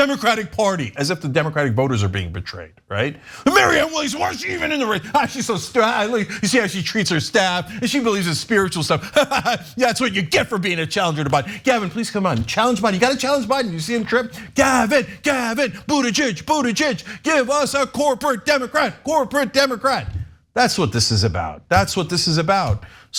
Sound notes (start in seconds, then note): 9.1 laugh